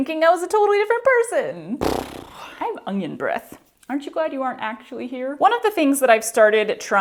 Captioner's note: mouth fart